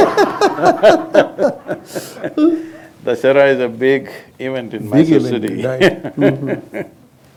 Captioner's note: laughter; laughs